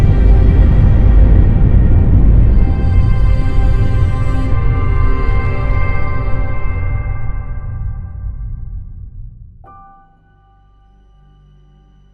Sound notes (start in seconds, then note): none